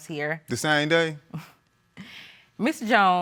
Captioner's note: chuckles